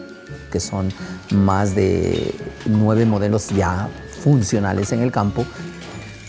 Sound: speaking in foreign language

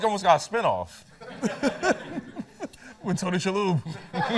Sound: laughter

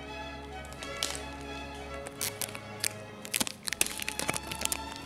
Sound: tape crackles

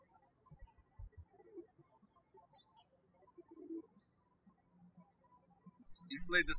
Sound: birds chirping

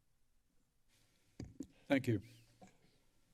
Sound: rustling sound

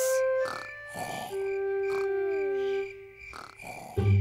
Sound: george snoring

